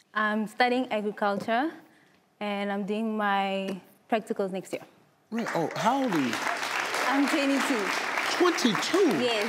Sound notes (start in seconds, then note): 5.3 audience clapping